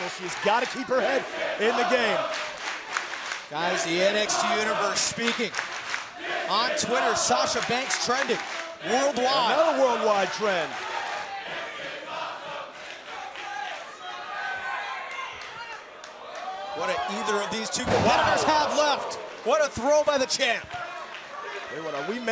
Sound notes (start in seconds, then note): 3.0 crowd cheering; 11.2 crowd chatter